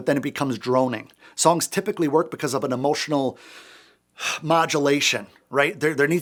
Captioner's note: sighs and gasps